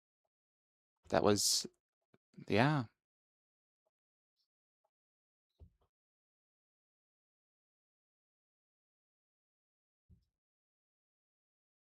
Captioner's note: muted